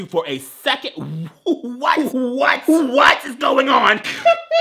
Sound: laughing

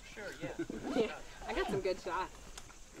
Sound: laughter

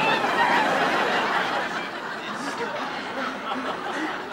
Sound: audience laughing

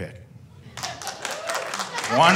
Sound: one man claps

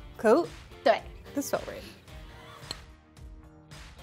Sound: speaking in mandarin

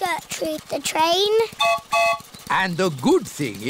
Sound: train whistle blows

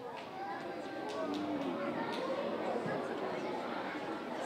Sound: audience chattering

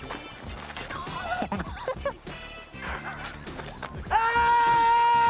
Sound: laughing

